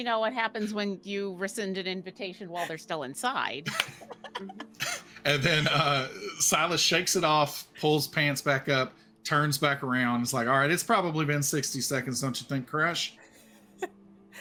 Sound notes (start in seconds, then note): 3.6 laughing